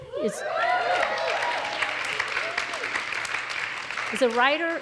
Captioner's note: audience cheers; audience applauds